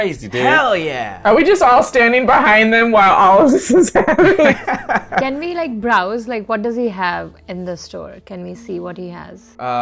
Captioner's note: laughs